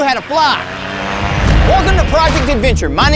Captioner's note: motor accelerating